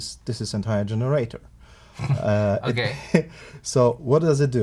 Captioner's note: laughs